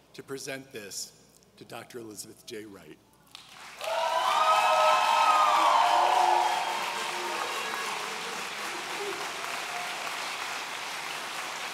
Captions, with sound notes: to present this to Dr. Elizabeth J. Wright. (audience cheering)